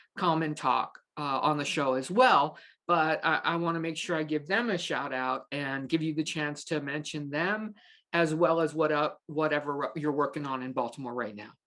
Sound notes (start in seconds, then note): none